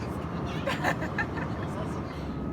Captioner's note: laughs